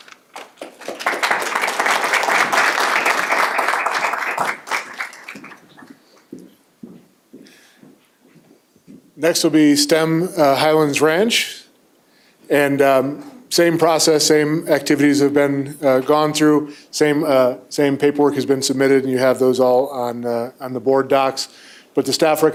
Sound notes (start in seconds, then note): 4.2 applause